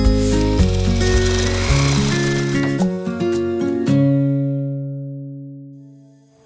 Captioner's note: upbeat music; drill whirring; upbeat music